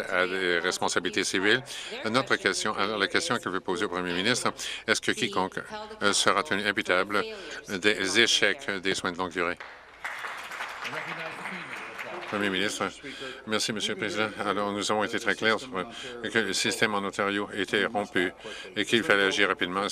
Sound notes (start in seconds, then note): 13.1 some Applause